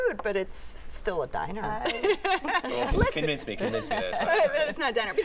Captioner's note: laughter